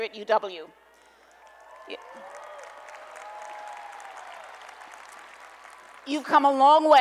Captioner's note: applause and Cheering